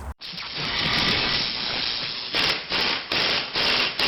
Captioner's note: drilling sounds